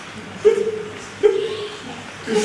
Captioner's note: softly sobs